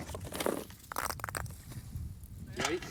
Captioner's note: balls bouncing off